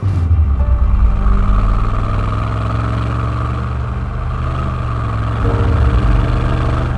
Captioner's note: light music; motor humming